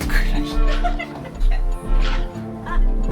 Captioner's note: laughing